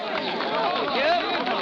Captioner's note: applause